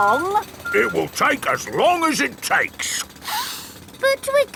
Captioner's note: sniffs